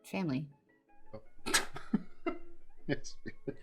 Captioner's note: laughs